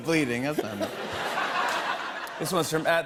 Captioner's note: laughter